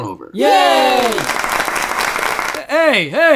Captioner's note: applause